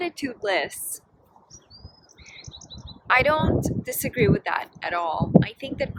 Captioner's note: normal voice